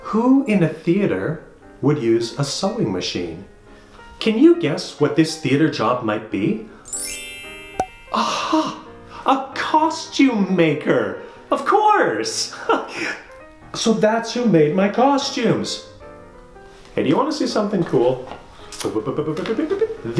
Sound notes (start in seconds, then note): 6.9 sound of glockenspiel followed by a popping noise; 12.2 laughs; 18.6 sound of bopping noises